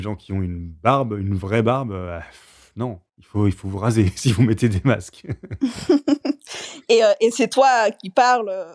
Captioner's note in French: rires